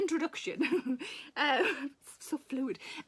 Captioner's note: Sarah laughs